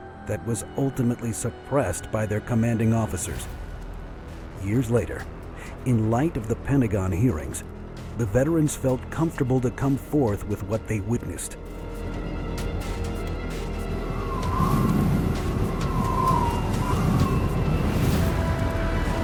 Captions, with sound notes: that was ultimately suppressed by their commanding officers. Years later, in light of the Pentagon hearings, the veterans felt comfortable to come forth with what they witnessed. (wind howling) (dramatic music)